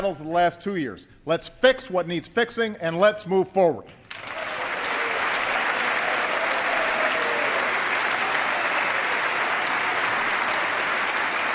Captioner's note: applause